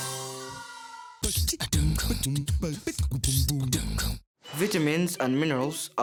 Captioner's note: beatbox sound